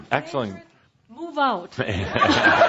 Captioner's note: lots of laughter